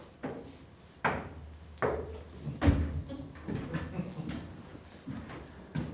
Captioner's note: heavy footsteps climbing stairs